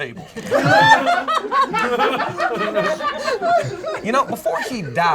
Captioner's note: group laughs